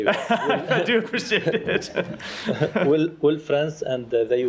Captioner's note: laughter